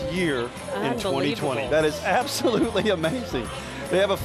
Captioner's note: laughing